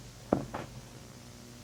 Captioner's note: thump